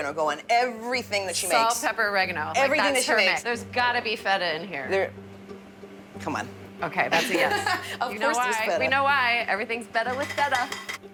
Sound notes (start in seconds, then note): 7.1 laughs